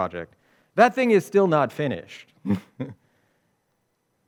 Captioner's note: chuckles